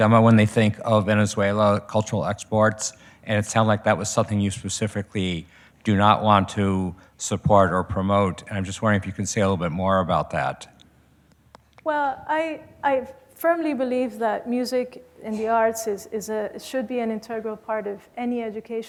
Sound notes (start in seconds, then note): none